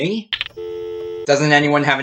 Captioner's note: dial tone